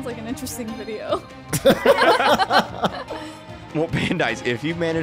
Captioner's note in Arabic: الكل يضحك